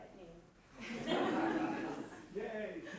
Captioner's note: laughter